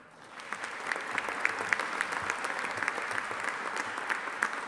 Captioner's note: audience applauding